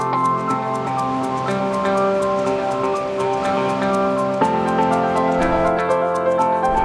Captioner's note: upbeat music; water rushing